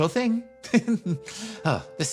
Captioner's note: chuckle